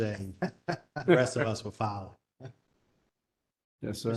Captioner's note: laugh